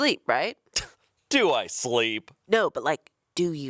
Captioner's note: chuckling